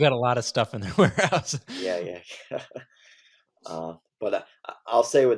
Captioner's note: laughs